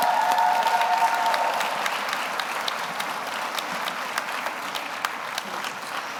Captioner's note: audience cheers; audience applauds